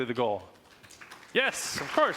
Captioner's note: applause